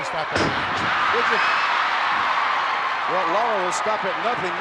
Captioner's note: audience cheering; body thuds